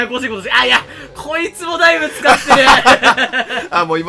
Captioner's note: laugh